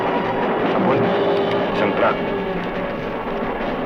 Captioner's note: non-english